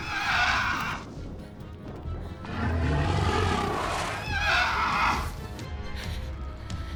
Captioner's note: Connie sobs; dragon roars